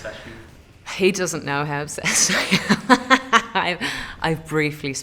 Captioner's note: laughter